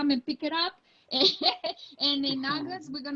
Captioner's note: laughing